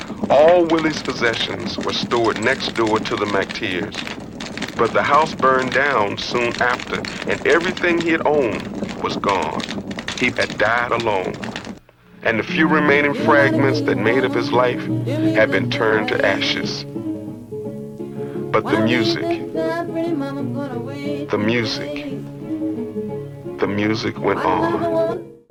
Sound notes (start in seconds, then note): 9.1 flames burning